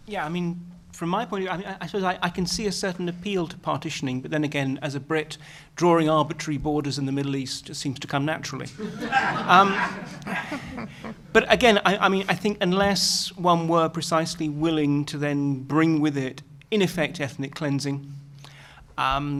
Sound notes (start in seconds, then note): 8.7 laughter